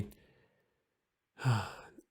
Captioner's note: sighes